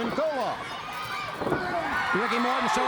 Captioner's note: crowd chatter; crowd cheering